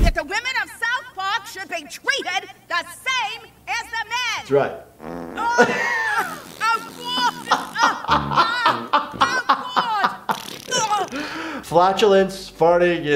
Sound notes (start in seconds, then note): 5.0 loud flatulence; 7.0 laughter